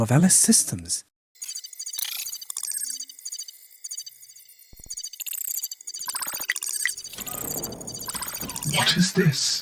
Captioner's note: computer transmission noises